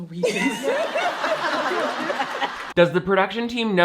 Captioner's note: all laughing